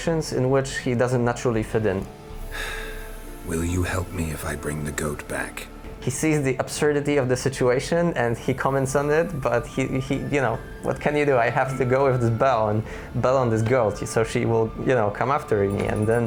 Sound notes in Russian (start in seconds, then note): 2.4 Вздыхает